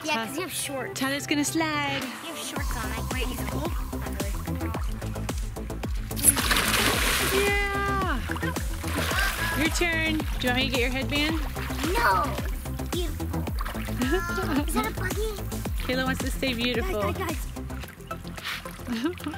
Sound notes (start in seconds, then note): 4.0 upbeat music; 6.4 splashing